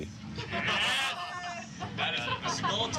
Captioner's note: cheering